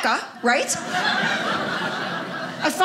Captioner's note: audience laughing